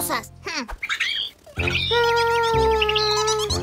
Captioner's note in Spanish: Sonido de pajaro